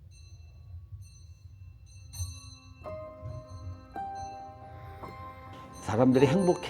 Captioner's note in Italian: suono della campana che segna la fine della vita